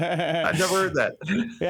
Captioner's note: laughs